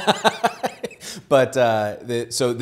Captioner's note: laughs